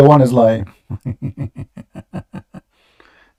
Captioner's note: Ketawa